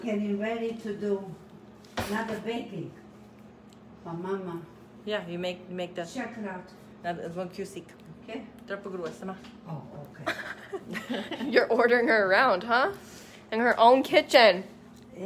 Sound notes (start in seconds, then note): 7.0 speaks in foreign language; 10.2 laughs